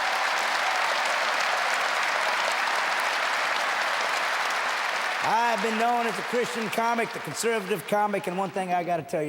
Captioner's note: audience cheering and applauding